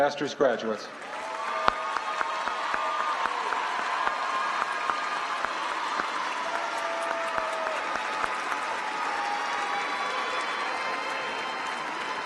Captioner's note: applause